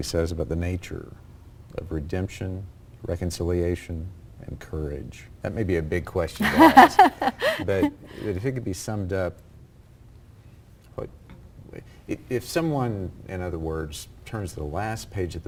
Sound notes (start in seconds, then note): 6.4 laughter